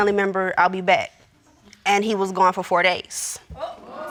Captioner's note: audience exclaims